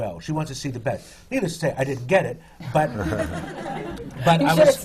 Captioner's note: laughter